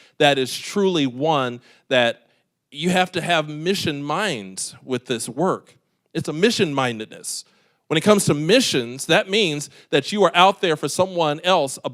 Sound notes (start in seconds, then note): none